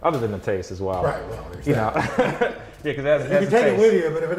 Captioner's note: laughs